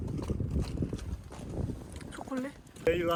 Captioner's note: the sound when I walk on the glacier